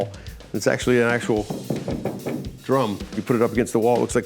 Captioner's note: knocks on drum